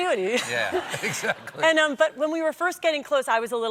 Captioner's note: laughter